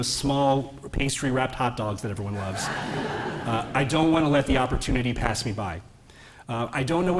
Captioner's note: laughter